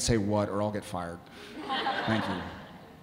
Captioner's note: audience laughing